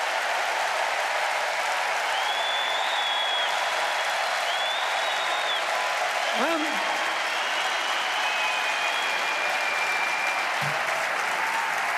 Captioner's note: cheers and applause